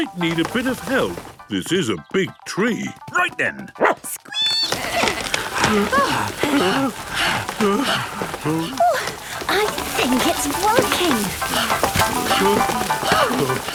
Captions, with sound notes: I might need a bit of help. This is a big tree. - Right, then. (barking, squeaking, bleating) (all groaning and panting) - Oh, I think it's working. (all panting)